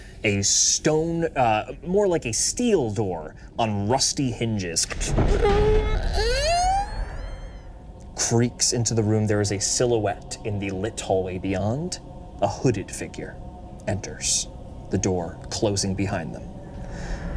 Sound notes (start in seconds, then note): 4.8 door creaks